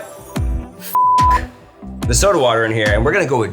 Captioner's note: beeping